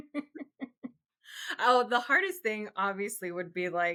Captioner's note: laughs